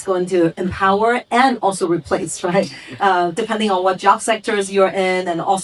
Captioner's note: chuckles